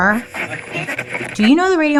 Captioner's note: radio crackling